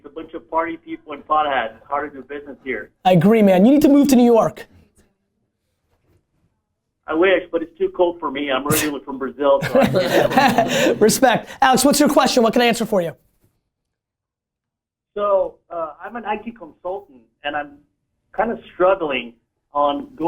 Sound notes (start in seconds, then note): 9.6 laughter